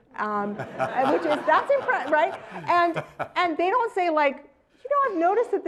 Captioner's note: laugh